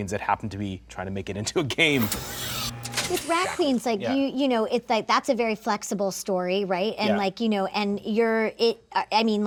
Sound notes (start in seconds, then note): 1.7 electronic buzzing